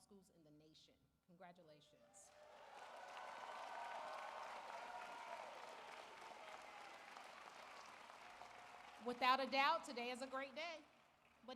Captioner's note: applause